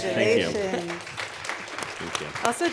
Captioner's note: audience applauding